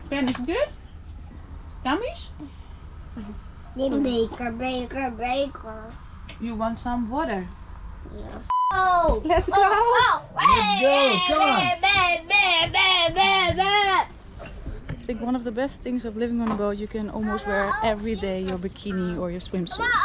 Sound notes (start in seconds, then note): 2.4 asks in Dutch; 3.9 speaking in a Dutch